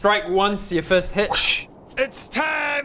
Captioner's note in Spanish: ¡whooosch!